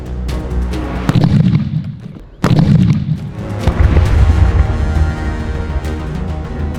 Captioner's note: cracker Bursts